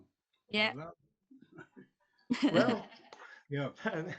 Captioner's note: chuckles